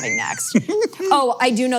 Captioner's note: laughs